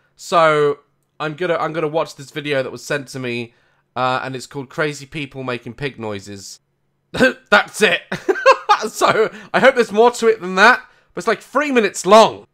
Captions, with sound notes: so I'm going to watch this video that was sent to me and its called "Crazy People making Pig Noises". That's it. *laugh* I hope there's more to it then that. It's like three minutes long!